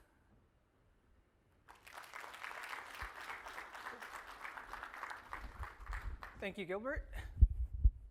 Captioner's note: applause